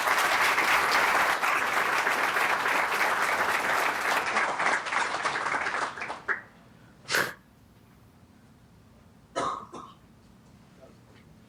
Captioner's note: applause